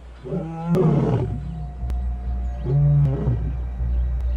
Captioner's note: roaring